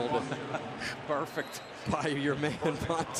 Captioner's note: chuckles